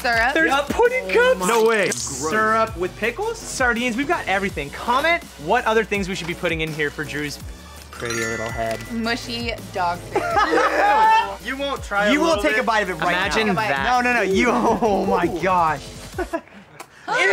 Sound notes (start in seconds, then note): 10.1 laughing; 13.1 laughs